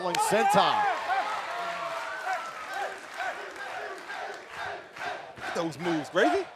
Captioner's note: crowd cheering